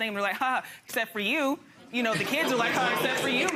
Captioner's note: chuckles